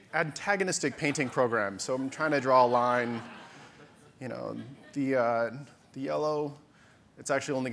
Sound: audience laughter

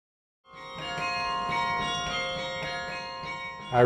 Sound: bells

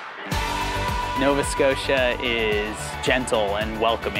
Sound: male Voice

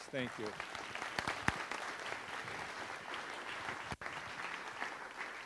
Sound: audience applauds

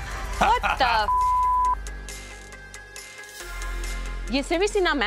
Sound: laughing; beeping

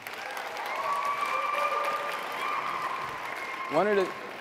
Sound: audience clapping and cheering

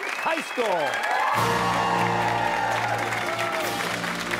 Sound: cheers and applause

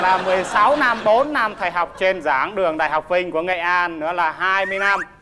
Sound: applause

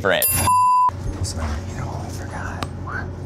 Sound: beep

